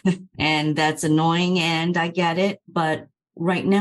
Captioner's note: laughter